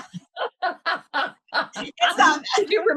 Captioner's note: laughter